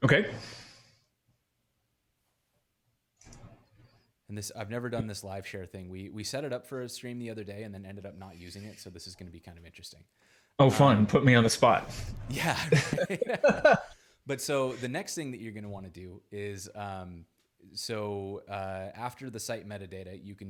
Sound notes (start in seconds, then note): 12.3 chuckles; 12.3 laughs